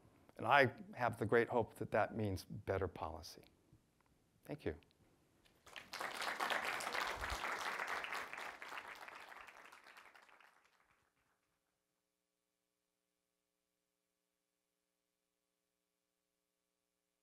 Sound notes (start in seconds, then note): 5.5 applause